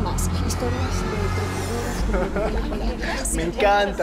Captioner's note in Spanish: Ríe